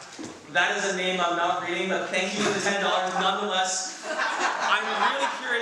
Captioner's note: audience laughs